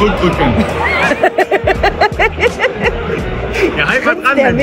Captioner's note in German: Frau lacht